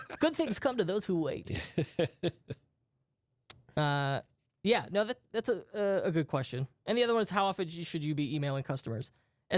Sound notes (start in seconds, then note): 1.4 laughs